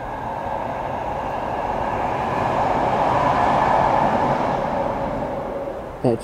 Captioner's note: train noise